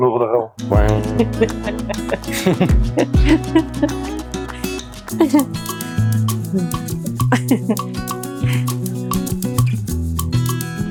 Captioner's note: Unicorn and Yak Laugh